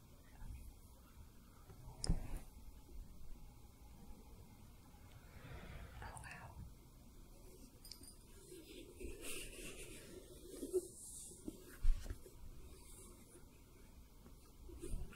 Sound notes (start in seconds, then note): 0.7 shuffling; 7.5 jingling, brushing the orb